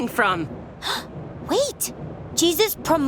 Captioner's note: gasps